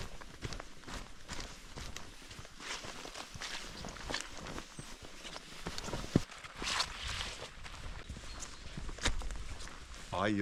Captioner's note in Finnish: askelten ääniä